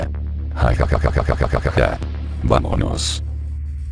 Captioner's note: cheeky laugh